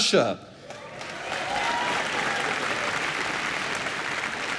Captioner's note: applause